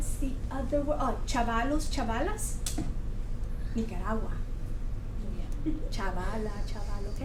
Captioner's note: speaks Foreign Language